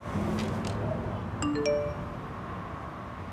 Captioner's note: notification sound